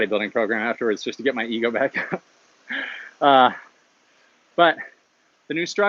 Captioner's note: laughs